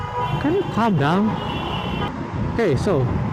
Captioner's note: lots of honking